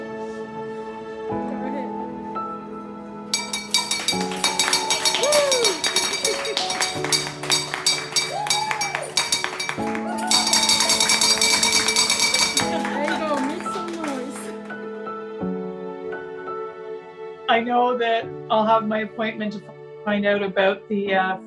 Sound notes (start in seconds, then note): 3.2 ringing bell; 5.4 clapping and cheering